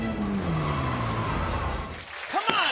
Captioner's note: tires screech